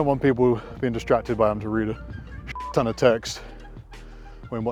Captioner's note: beep